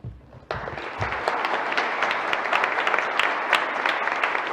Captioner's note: audience applauding